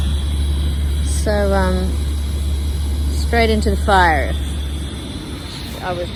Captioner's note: gas stove hisses loudly